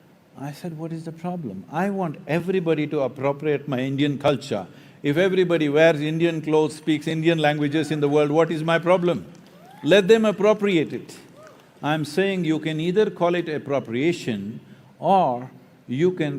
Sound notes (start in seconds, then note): 7.6 laughs